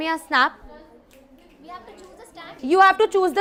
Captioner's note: fingers snap